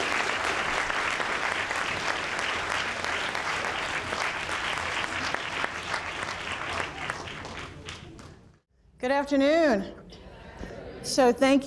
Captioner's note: applause